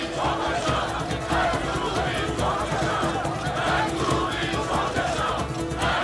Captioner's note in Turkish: Hep bir ağızdan